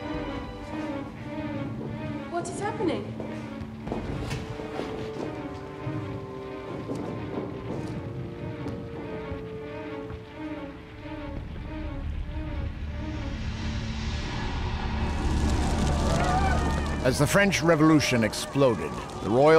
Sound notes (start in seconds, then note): 6.9 <i> explosions in distance</i>